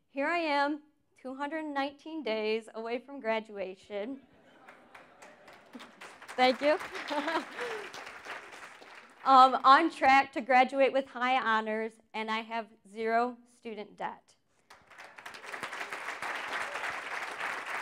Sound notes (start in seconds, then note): 4.6 applause; 6.7 chuckles; 14.6 applause